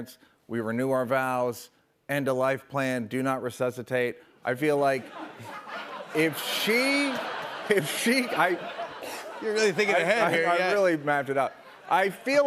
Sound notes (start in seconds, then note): 7.1 laughter